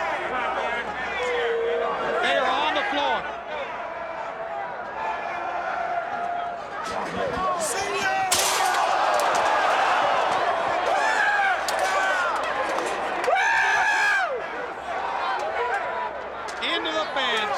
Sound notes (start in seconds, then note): 4.4 crowd chatter; 7.0 crowd cheering